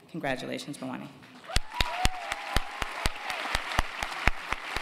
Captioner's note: cheers and applause